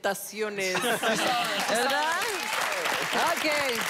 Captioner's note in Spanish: Risas